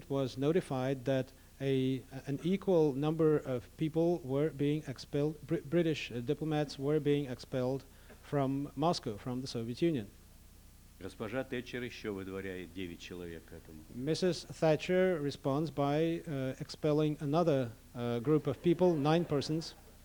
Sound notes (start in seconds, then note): 11.9 non-english speech